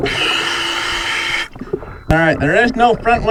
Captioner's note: regulator hissing